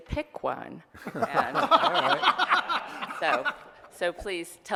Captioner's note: laughter